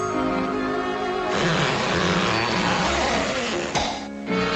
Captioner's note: light, airy music continues; rear end squeaking